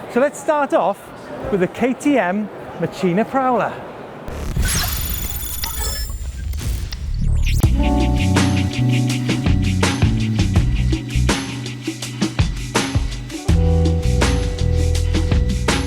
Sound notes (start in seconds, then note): 4.3 lighting strike; 8.0 ambient music